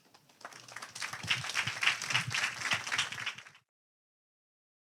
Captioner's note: audience applauding